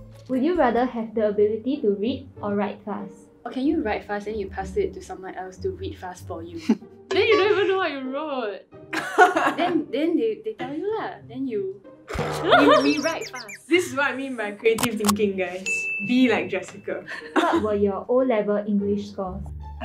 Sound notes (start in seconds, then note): 8.8 laughs